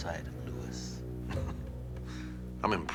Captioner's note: chuckles